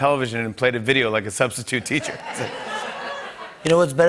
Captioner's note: laughter